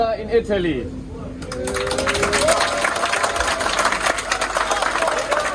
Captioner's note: cheering, clapping